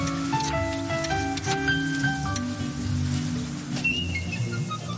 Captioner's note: dialing